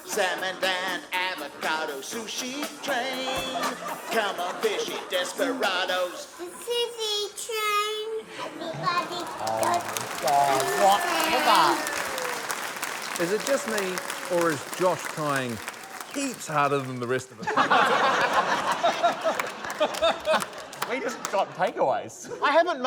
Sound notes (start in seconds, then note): 10.4 cheering, applause; 17.3 laughter